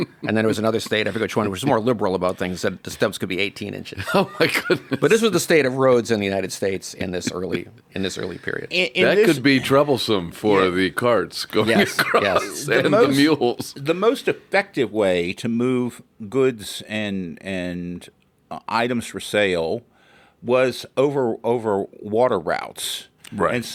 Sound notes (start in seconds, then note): 4.4 laughs